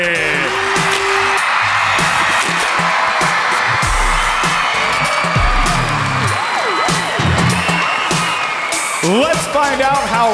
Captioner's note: crowd cheering